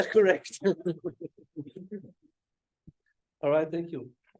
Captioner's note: laughing